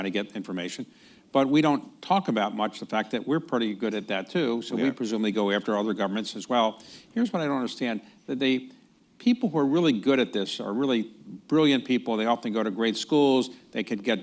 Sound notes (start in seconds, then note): none